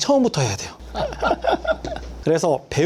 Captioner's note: both laughing